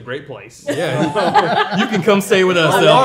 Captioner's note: group laughing